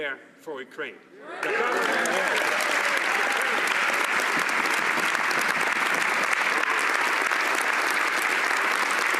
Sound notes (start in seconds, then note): 1.4 some Applause